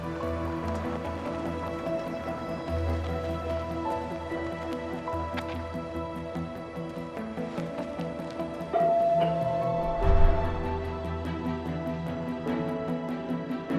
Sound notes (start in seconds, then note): 8.8 bell ringing; 10.7 inspiring music